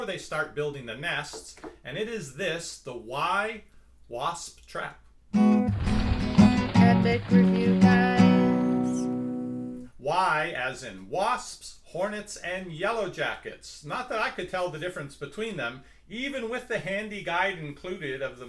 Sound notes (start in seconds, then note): 7.5 voiceover